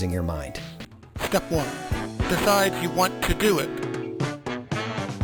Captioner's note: distorted announcer voice